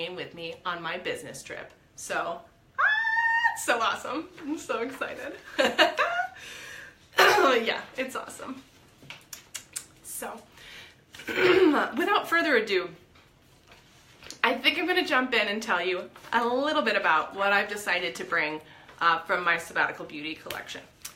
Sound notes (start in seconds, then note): 5.5 laughs; 11.2 clears throat